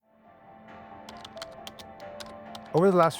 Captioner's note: typing